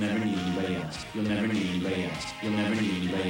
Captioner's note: echoing